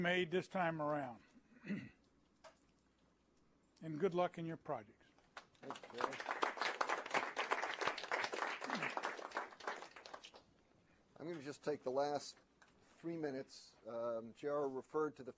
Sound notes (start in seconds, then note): 5.3 applause